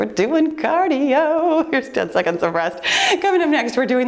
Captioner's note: laughs